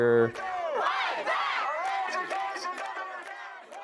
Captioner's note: shouting; crowd; shouting